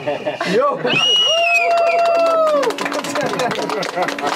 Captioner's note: whistling and applause